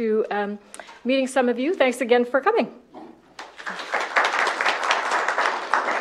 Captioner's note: applause